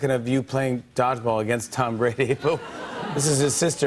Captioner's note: laughter